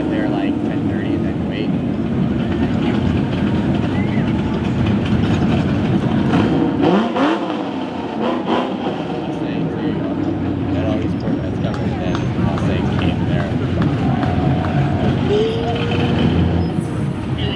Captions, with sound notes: I'd rather get there at 10:30 and then wait. (engines rumbling) (engine revving) Staying in here, that always worked out. I'd said I'd meet him there.